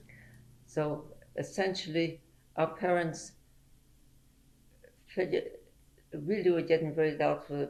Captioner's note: pauses for 3 seconds